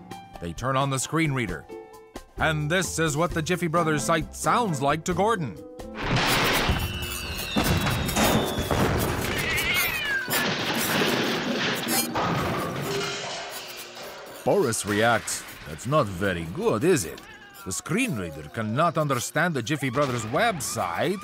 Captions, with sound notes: They turn on the screen reader, and this is what the Jiffy Brothers site sounds like to Gordon. [computer sounds, explosions, bangs and clanging of metal] [cat howl] Boris reacts, "That’s not very good, is it? The screen reader cannot understand the Jiffy Brothers website